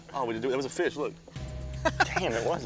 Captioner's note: laughs